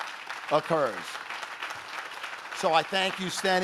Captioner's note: audience claps